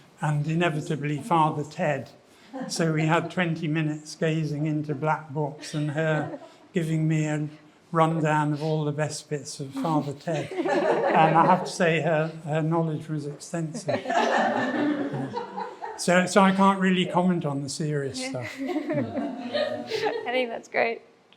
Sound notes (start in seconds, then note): 14.1 attendees laughing